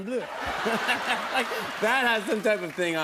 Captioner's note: laughter